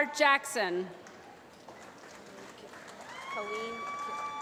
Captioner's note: applause